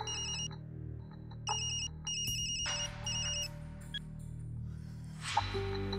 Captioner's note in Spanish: Suena el celular